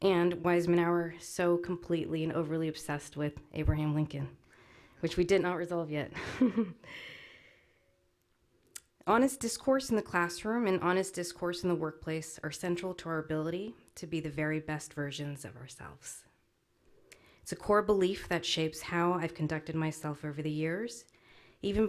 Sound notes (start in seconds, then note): 6.2 laughs